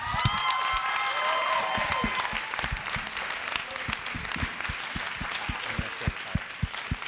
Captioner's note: audience cheering; audience applauds